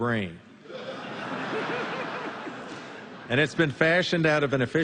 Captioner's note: laughter